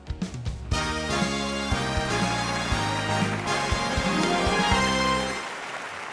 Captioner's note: dramatic music; audience applauds